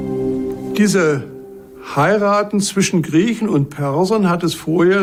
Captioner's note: in German